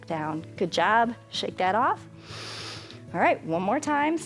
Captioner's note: inhales